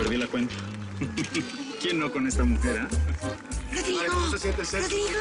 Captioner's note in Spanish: Ríe